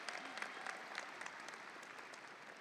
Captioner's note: audience applauding; audience cheering